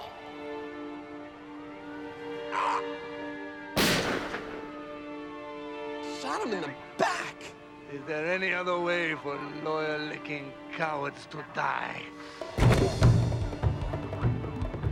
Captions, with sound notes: (sad music) (gun fires) - You shot him in the back. - Is there any other way for lawyer-licking cowards to die? (tense music)